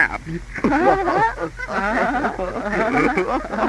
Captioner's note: laughing